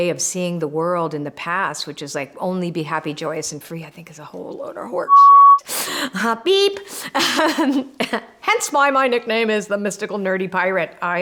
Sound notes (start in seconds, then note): 5.0 beep; 7.1 laughing